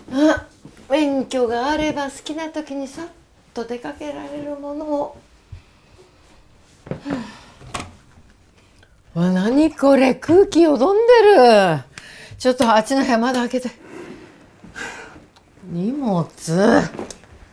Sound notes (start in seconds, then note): 6.9 Mitsue sighs; 7.7 door opens